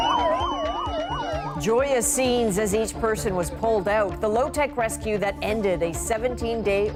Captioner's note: sirens